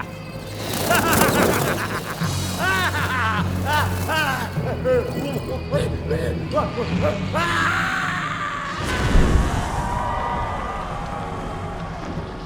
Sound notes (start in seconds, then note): 0.0 laughing; 3.3 laughing turns concerned; 5.3 worriedly grunting; 7.3 screaming in terror; 9.3 crowd cheers